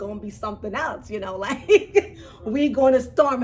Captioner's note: laughs